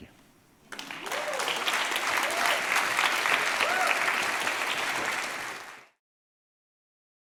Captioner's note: applause